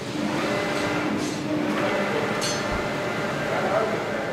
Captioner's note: machine noise